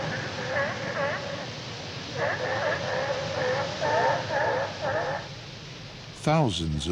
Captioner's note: sea Lions Barking